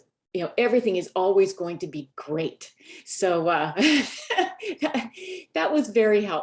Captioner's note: laughs